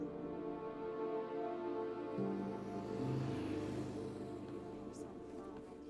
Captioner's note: vehicle passing